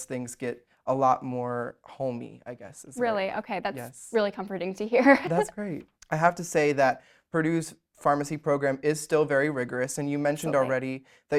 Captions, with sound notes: things get a lot more homey, I guess is it. - Really? Okay, that's really comforting to hear (laughs). - That's great. I have to say that Purdue's pharmacy program is still very rigorous, and you mentioned already